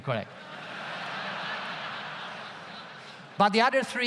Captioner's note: audience laughs loudly